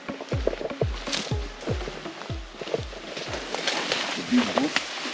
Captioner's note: leaves rustling